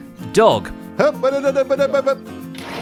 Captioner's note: sputters